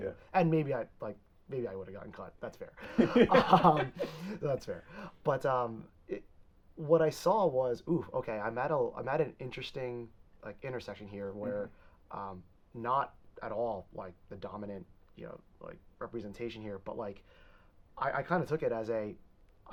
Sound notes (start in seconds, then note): 2.8 both laughing